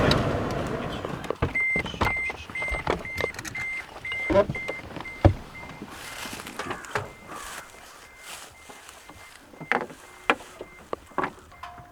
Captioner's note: truck beeping